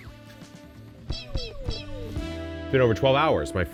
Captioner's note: effect whooshing; effect beeping